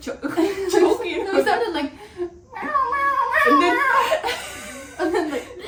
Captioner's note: meow, meow, meow, meow